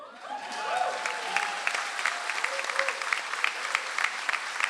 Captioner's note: audience applauds